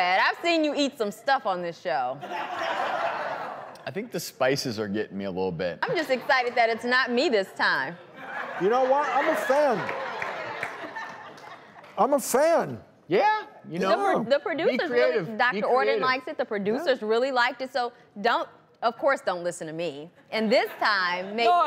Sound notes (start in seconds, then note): 2.2 laughter